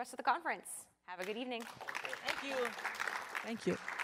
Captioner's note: applause